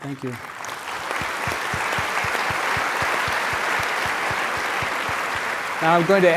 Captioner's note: applause